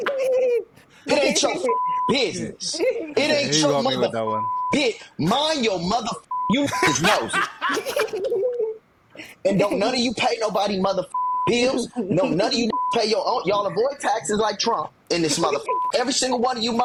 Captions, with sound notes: (laughing) Put it in your business. It ain't your motherfucking bitch. Mind your motherfucking youth's nose. (laughing) No, none of you pay nobody motherfucking bills. No, none of you pay your own, y'all avoid taxes like Trump. And this motherfucking, every single one of you